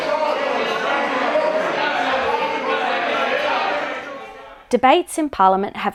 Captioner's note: members yelling